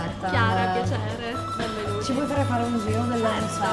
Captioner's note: non-english speech